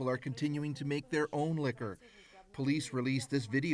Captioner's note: speaking russian